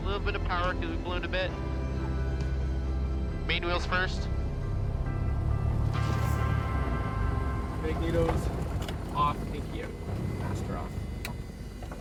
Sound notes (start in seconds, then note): 6.3 wheels thump down